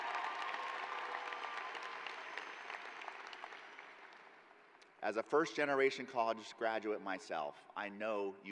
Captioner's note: cheering